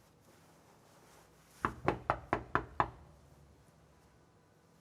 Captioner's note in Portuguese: batida na porta